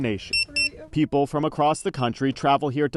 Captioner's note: barcode scanner beeping